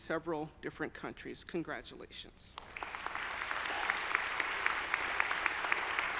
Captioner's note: audience applauding